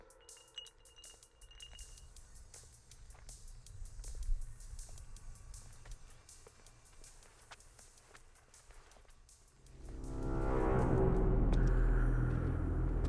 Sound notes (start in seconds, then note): 0.0 bottle tinkling; 2.9 footsteps clomping; 9.5 ominous music